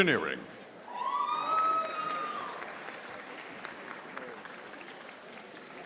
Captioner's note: audience applauding